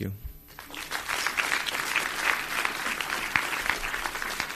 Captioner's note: audience applauds